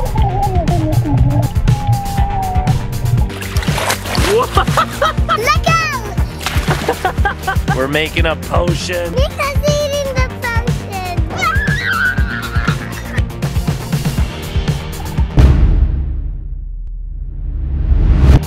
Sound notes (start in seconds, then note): 0.0 exclaiming; 4.2 laughs; 6.6 laughter; 11.4 screaming